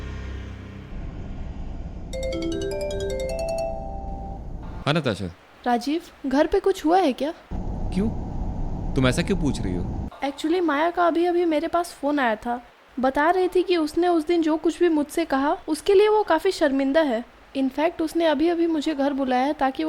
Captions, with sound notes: (Mobile ringtone) Yeah Natasha Rajeev, has something happened at home? Why? Why are you asking me this? Actually, I got a call from Maya right now. She was telling me that she was ashamed of whatever she told me earlier. In fact, she has asked me to come home right now